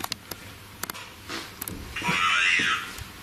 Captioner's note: soft banging; voice On Radio